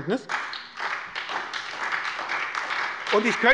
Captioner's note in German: Beifall bei der SPD